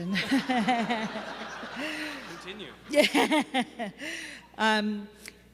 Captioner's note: laughs